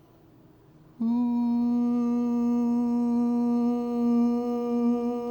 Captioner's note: humming